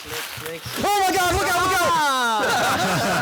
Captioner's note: Victor screaming; laughing